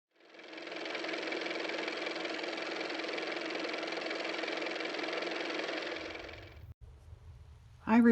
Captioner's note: car motor